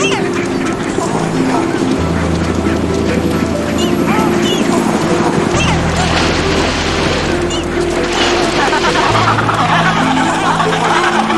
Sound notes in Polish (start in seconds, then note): 1.7 ryk silnika; 5.2 plusk wody; 8.6 terkotanie pingwinów